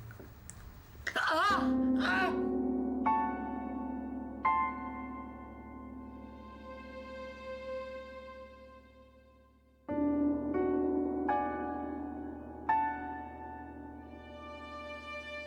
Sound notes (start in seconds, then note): 1.7 light ominous music; 1.7 yelling